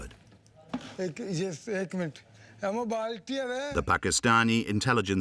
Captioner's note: speaking foreign language